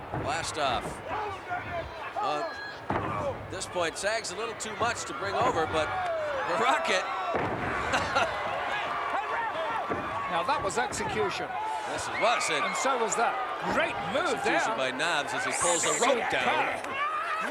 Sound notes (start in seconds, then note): 7.8 laugh